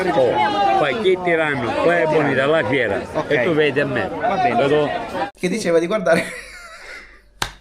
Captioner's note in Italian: risate